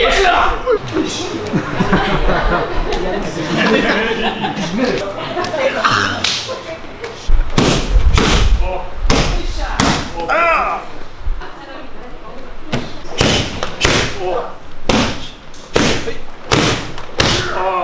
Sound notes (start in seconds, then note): 0.9 laughter